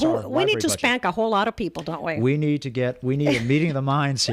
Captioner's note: Hablando ingl\s